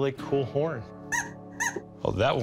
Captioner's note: horn squeaks